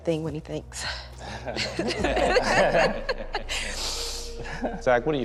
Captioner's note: laughter